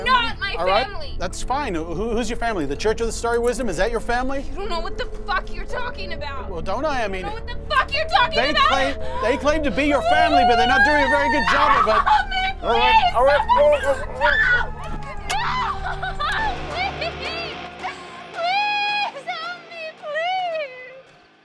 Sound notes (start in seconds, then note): 12.2 screams; 17.2 static sounds; 21.2 crickets chirping